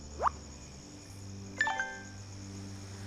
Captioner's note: phone chimes